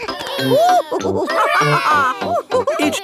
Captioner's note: children straining; giggles; madam gazelle laughing